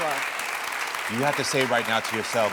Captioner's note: audience clapping